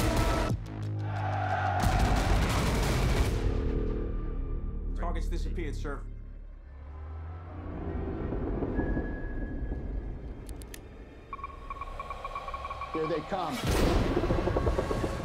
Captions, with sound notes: [cheering] Target's disappeared, sir. [sonar pings] [pinging rapidly] Here they come.